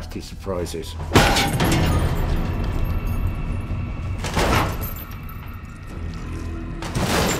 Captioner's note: obscure music; metal clanks; container thuds